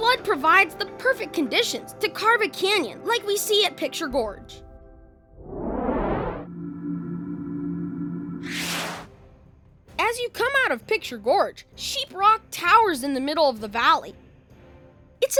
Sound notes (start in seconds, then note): 5.3 whoosh; 6.1 hum; 8.5 zap